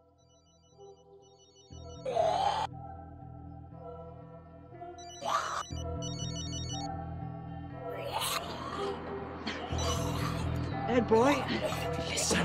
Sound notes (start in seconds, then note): 1.8 cell phone chiming; 1.8 snarling